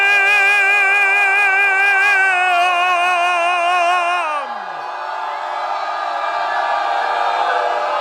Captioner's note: audience applause